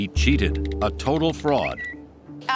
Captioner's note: Twitter chime